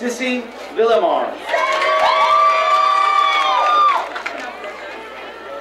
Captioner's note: crowd cheering